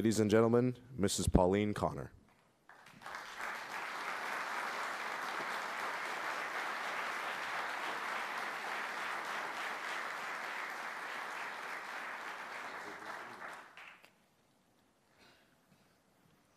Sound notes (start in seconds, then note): 2.6 applause